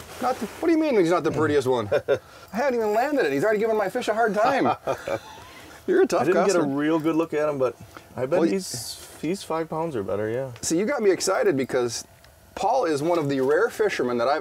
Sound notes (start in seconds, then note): 1.7 laughing; 4.4 laughing